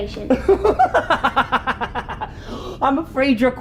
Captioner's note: Strangepants laughs